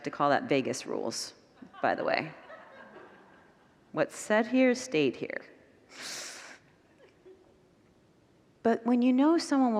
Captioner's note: congregants laugh